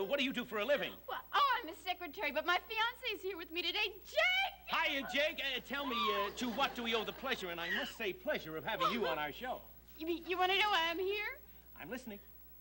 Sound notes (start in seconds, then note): 1.1 Thelma, giggling